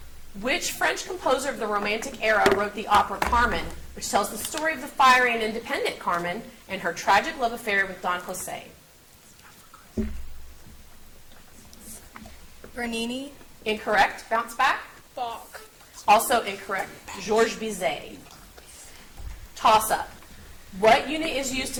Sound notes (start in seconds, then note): 9.8 contestants whisper